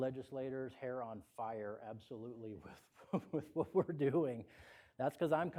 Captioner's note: laughter